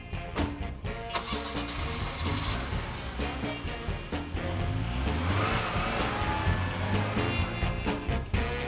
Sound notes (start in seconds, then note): 1.7 car revs